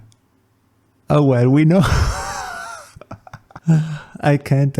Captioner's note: laughs